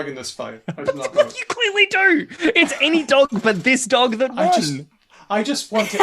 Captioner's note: laughs; laughs